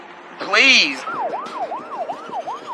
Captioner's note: sirenen w waililing